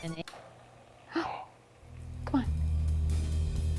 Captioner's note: gasps